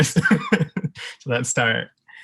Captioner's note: laughing